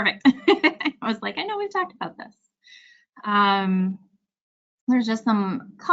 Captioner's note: laughs